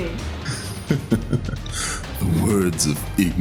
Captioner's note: laughing